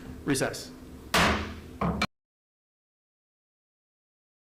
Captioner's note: hammer thudding